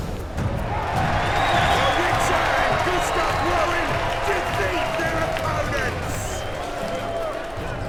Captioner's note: cheers